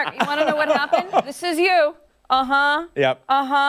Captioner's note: laughter